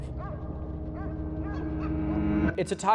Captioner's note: dogs barking